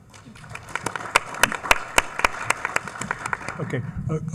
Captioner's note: attendees clapping